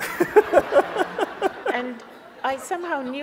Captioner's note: laughs; audience laughs